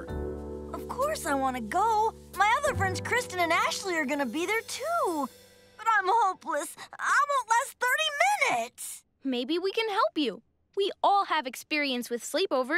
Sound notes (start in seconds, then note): none